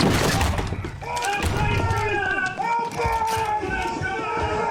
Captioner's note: men shouting